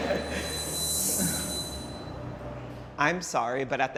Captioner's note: laughing; high pitched squeal